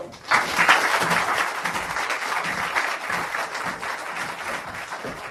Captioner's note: applause